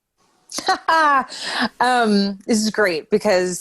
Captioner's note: laughing